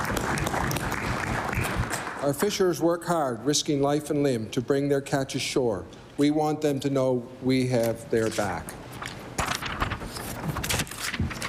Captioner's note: applause